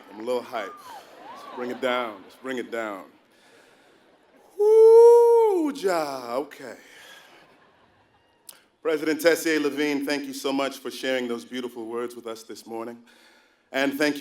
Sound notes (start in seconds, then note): 4.1 laugh